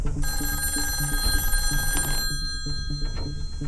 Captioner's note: phone ringing